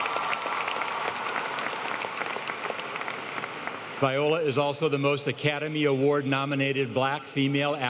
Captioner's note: applause